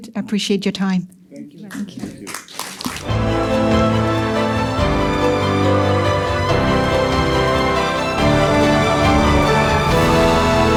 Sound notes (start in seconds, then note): 1.7 applause